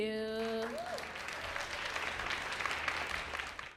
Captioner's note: audience clapping